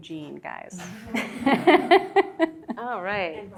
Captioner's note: students laughing